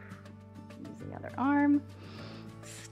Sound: inhales

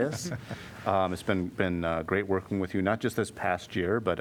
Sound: laughter

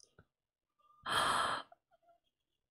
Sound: gasps

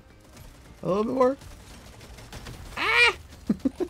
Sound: laughs

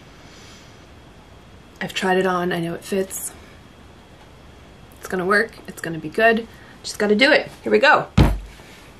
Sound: pounds table

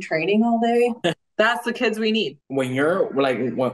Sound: chuckles

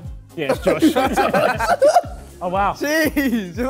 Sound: Sidemen laugh

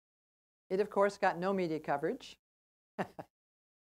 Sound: laugh

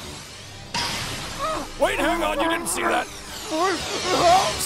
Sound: muffled cries

